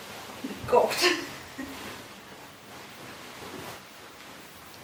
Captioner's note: chuckles